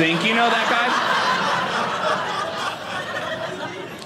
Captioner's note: audience laughing